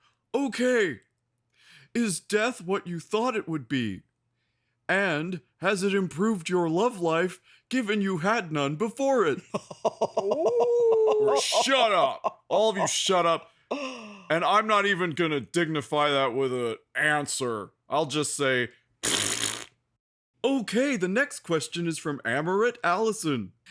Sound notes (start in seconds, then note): 9.4 evil laughter; 19.0 blows raspberries